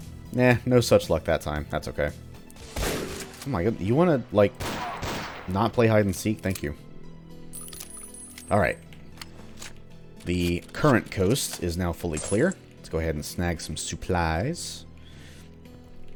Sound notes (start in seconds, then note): 4.6 bang bang